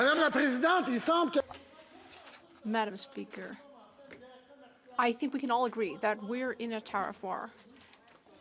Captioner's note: speaking French